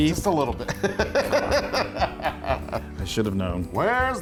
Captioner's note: laugh